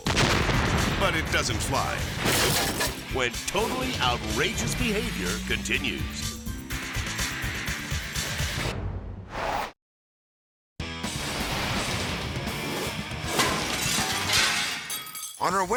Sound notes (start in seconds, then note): 0.0 explosion rumbles; 2.2 shed shattering; 6.1 upbeat rock music; 9.2 logo whooshes; 10.8 hard rock music; 11.0 metal clattering; 13.3 glass shatters